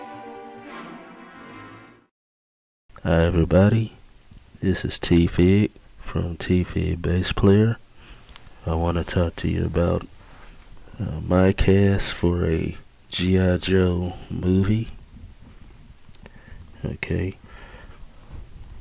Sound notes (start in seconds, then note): 2.7 male Speaking